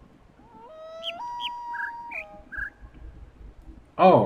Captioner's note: coyote howls ˩˧˥˥ ˧; bird chirps five notes